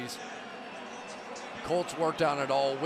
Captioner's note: pa announcement